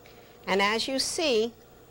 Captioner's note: none